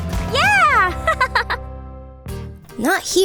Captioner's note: chuckles